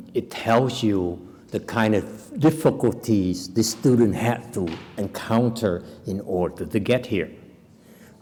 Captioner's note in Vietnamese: none